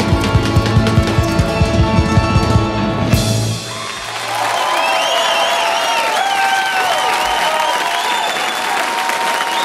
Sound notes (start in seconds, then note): 3.5 crowd cheering; 3.6 crowd clapping